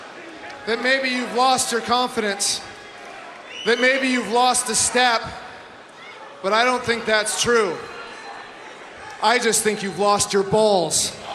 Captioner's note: crowd chanting obscenities